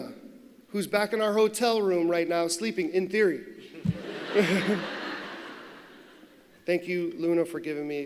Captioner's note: laughter